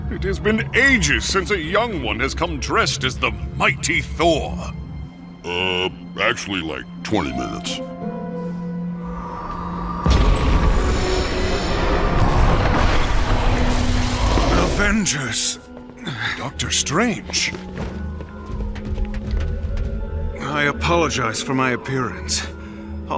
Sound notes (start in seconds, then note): 10.0 boom; 14.6 straining